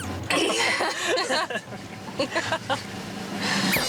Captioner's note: laughing